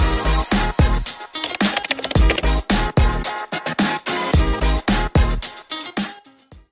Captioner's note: upbeat music; keyboard clacking